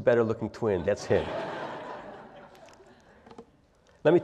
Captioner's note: laugh